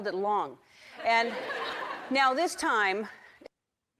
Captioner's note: audience laughs